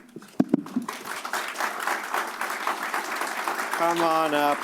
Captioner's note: applause